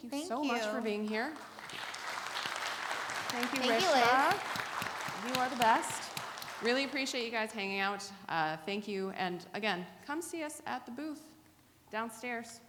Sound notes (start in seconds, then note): 2.2 audience applauding